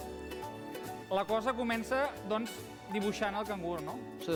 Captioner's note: non-english speech